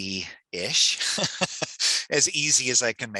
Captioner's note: laughs